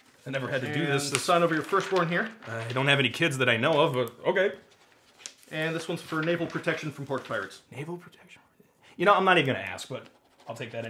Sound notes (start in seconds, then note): 8.5 mutters